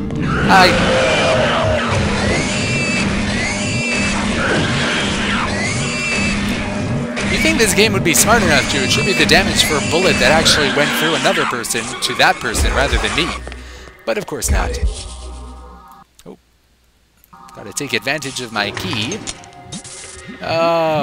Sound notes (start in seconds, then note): 0.2 monster roars; 2.7 gunfire and pig noises